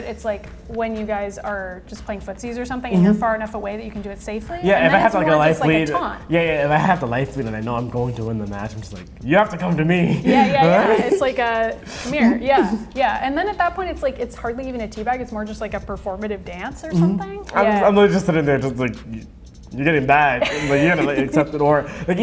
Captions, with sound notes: it's when you guys are playing footsies or something, and you're far enough away that you can do it safely. - Yeah, if I have a life lead... - And then it's more of a taunt. - Yeah, if I have the life lead and I know I'm going to win the match, I'm like you have to come to me. (laughing) - Yeah, it's like, come here. Yeah, yeah, and then at that point it's hardly even a tea bag, it's more of a performative dance or something. - I'm literally just sitting there just like you're getting bagged, you're gonna accept it.